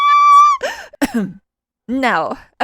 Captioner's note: ahem